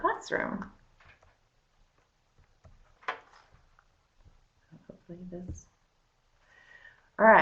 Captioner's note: no sound - slight pause getting webinar started